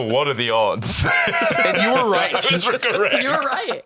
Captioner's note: laughing